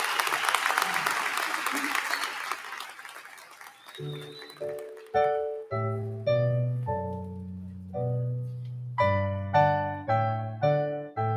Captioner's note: applause